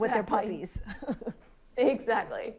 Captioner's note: laughs